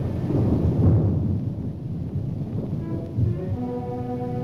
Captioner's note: thunder roaring